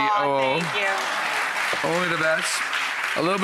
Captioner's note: audience applauds